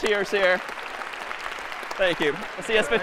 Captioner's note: applause